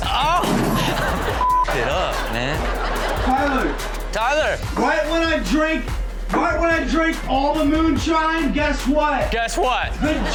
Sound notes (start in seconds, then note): 1.3 beep